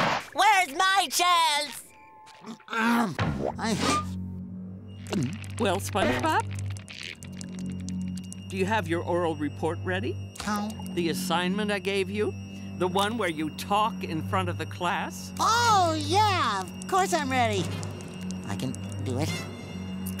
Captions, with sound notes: Where's my chance? [clearing throat] Well, SpongeBob? Do you have your oral report ready? - Huh? - The assignment I gave you. The one where you talk in front of the class. Oh, yeah, of course I'm ready. I can do it.